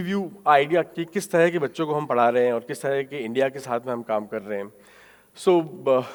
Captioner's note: speaking in foreign language